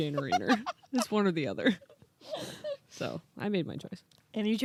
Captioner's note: laughing